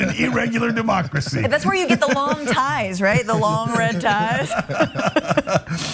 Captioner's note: laugh